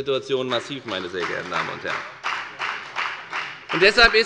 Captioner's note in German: Beifall bei der FDP